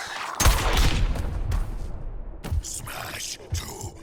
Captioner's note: explosion booms